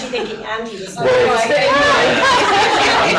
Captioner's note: laughter